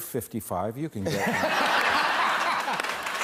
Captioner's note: laughter